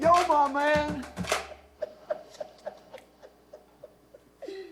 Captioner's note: laughter